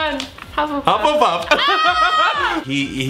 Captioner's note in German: lacht und klatscht